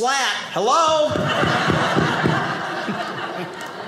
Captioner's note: audience laughing